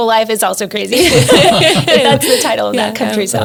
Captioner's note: all laughs